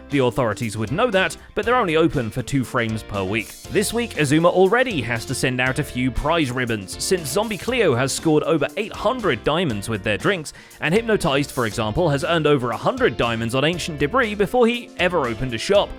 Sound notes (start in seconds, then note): none